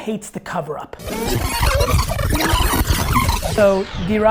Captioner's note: tape rewinding